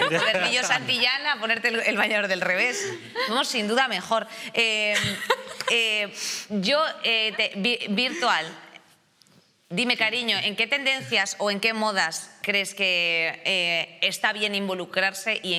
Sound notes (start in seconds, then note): 4.9 laughter